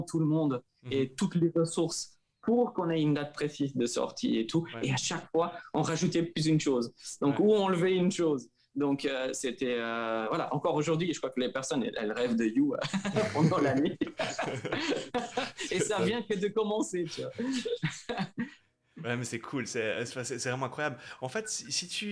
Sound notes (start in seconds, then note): 12.8 laughs